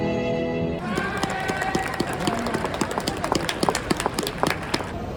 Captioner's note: clap clap clap